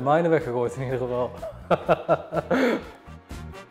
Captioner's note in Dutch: hard gelach